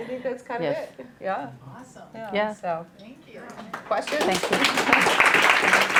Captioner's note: clapping